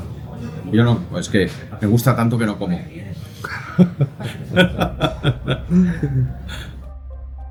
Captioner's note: laughs